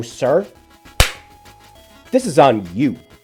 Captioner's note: smack